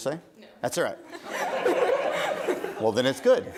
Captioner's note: audience laughing